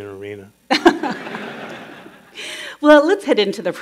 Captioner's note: laughter